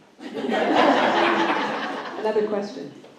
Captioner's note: laughter